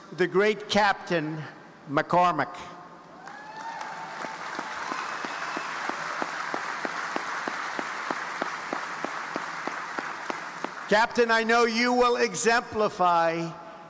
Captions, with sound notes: the great Captain, McCormick. (audience applauding) Captain, I know you will exemplify